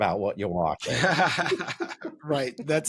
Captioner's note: laughter